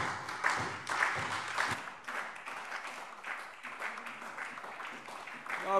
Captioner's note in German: Beifall SPD und vereinzelt DIE LINKE